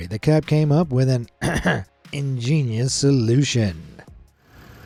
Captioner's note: ahem; clears throat